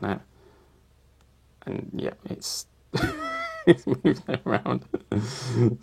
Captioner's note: laughs